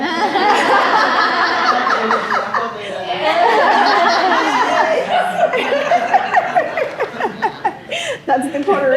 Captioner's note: laughter